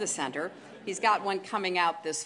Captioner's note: laughter